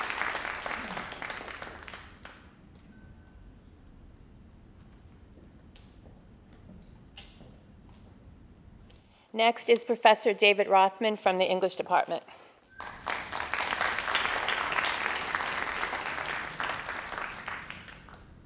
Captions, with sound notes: - Next is Professor David Rothman from the English department. (crowd applauding)